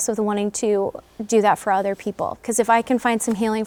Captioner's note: none